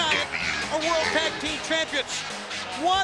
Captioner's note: crowd cheering